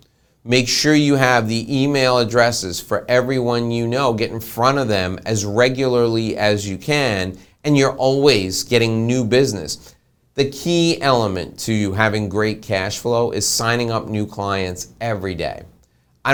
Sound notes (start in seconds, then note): none